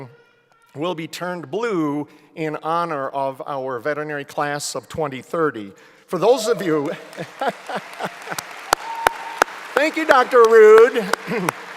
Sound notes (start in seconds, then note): 6.4 applause